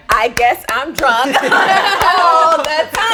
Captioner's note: group laughs